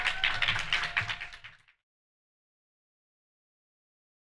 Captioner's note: crowd applauds